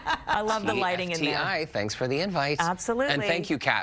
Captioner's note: laughter